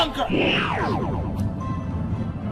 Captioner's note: wounded Beeping